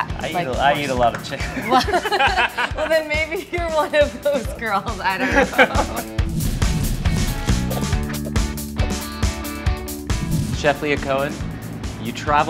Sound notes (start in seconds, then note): 1.4 both laugh; 5.0 both laugh; 6.7 upbeat music